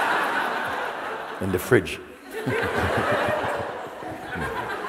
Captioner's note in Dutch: gelach